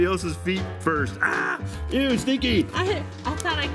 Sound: screams

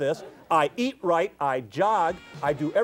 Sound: audience laughs

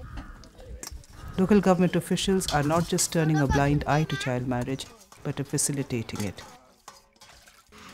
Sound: voice-over

